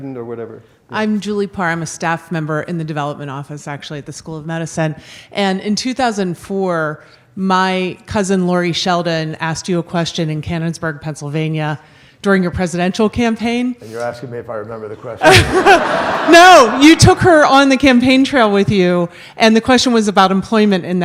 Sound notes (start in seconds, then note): 15.2 laughs; 15.2 audience laughs